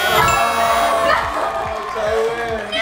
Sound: buzz; cheering; round of applause

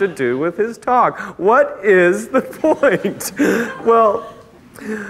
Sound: laughing

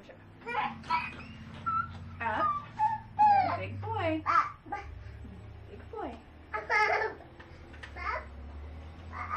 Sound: continues to whine and cry

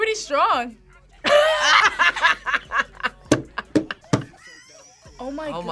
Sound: both laugh

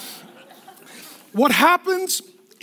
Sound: laughing

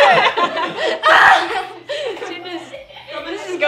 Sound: laughter and screaming

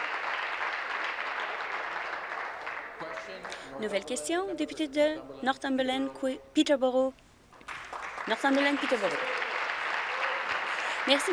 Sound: applause

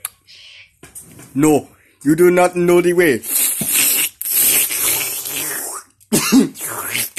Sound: slurping

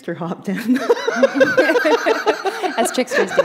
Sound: laughter

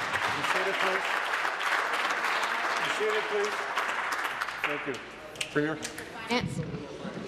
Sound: applause

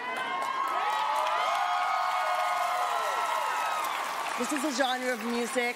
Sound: cheering

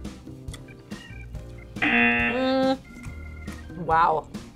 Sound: buzzer

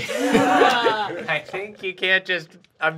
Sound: laughing

